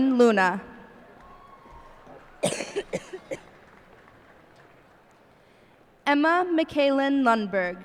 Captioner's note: cheers and applause